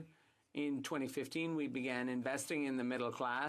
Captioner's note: speaking French